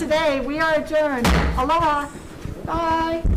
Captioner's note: gavel bangs